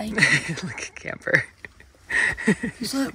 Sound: laughs

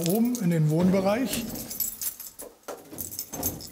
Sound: key jingling

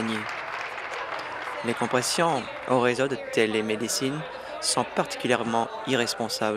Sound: applause

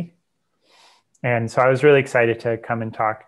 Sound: breath

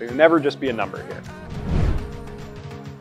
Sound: swooshing sound

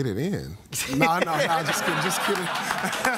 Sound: laughter and applause

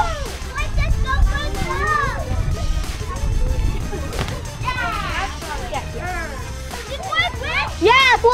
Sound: fun shouting and laughter

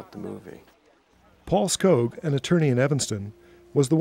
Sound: voiceover

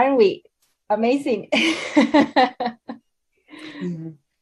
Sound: laughing

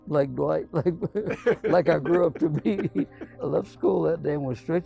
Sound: laughs

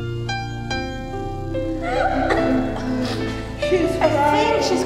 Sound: crying

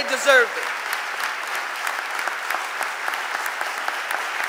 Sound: audience applauding

